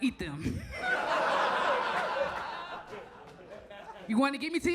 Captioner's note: audience laughs